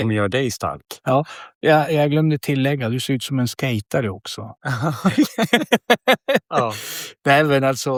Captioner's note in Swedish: skratt